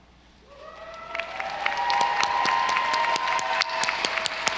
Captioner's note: audience applauding